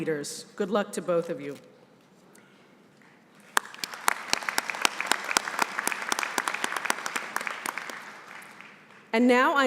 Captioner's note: applause